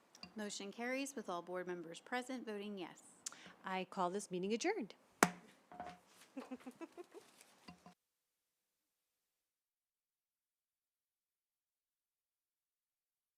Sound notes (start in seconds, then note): 5.0 gavel hitting dais; 6.3 giggles